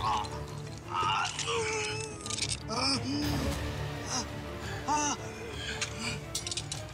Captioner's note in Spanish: quejidos de willy